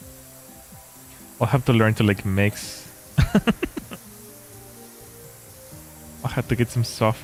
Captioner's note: laughter